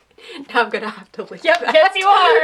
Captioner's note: laughter